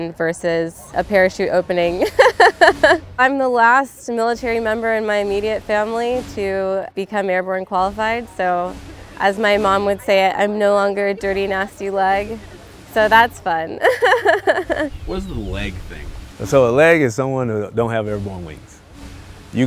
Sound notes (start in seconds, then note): 2.0 laughs; 13.4 laughs